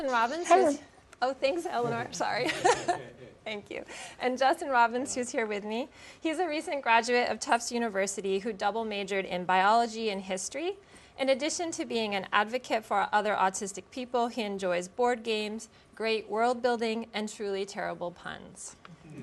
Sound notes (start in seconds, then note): 2.4 laughter